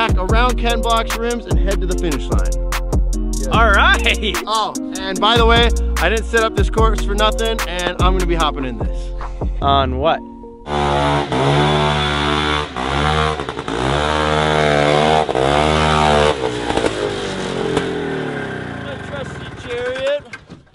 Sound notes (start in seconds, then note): 10.6 high-pitched revving